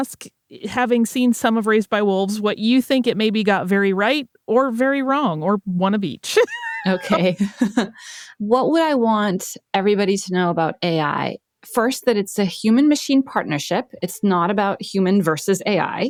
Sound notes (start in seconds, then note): 6.3 chuckles; 6.3 laughs